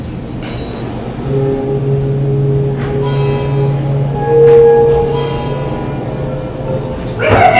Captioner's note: foghorn